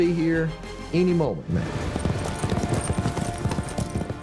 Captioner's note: horses running